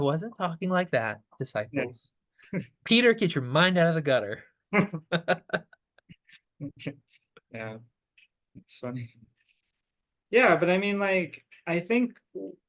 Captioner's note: laughing